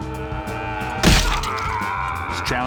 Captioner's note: screams; soldier cries out in pain; splat